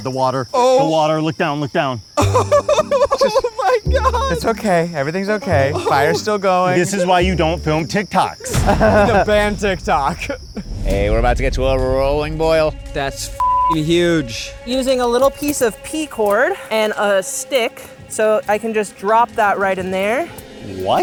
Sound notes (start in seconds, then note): 2.2 gentle orchestral music; 10.4 laughs; 13.9 dramatic orchestral music